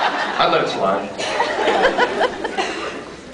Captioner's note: laughs; scattered laughs